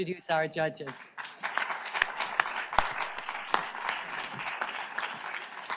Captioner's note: audience applauds